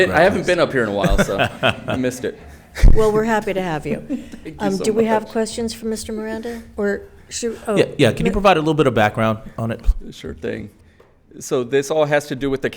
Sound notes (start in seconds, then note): 0.9 laughs